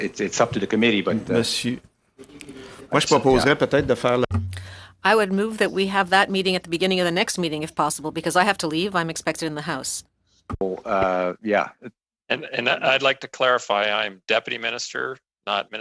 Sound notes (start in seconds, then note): 10.4 speaking French